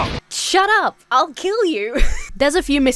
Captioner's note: laughs